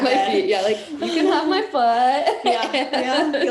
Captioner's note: laughing